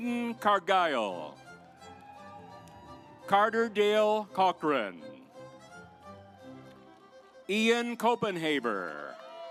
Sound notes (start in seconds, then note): 1.5 audience applauds; 5.5 stately music